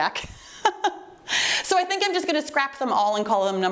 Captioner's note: laughing